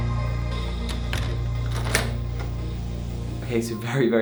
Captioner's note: lock clicking